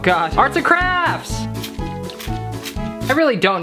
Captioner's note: water sprays